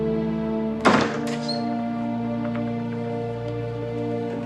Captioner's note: door opening